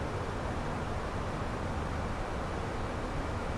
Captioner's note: radio chatter